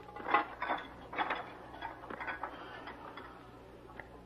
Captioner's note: dishes rattling